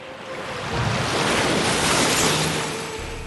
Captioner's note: whoosh